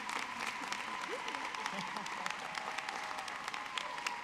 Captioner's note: audience clapping